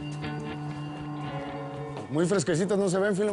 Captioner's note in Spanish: none